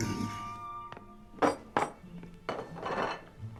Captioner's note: dish clatters